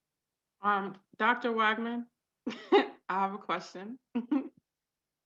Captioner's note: chuckles